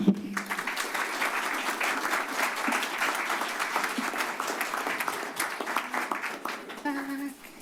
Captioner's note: applause